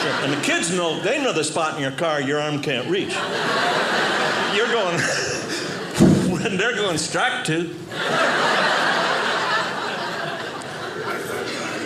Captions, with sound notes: And the kids know, they know the spot in your car your arm can't reach. (audience laughing) You're going, (air whooshing), and they're going, "Strike two." (audience laughing)